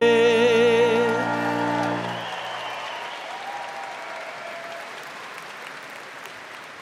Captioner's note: crowd cheering; crowd clapping